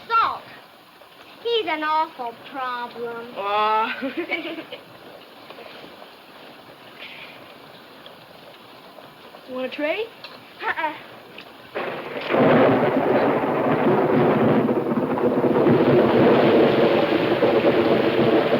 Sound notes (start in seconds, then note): 3.6 laughs; 11.7 thunder claps